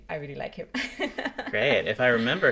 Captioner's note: chuckles